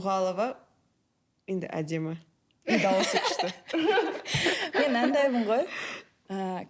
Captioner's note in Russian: смех